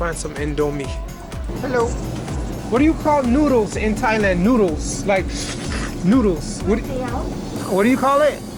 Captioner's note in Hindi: घुरघुर की आवाज